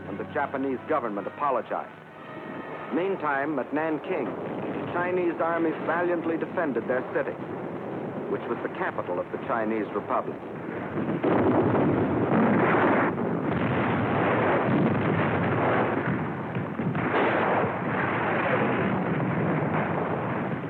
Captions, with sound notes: and the Japanese government apologized. Meantime at Nanking, the Chinese army valiantly defended their city, which was the capital of the Chinese Republic. [explosions]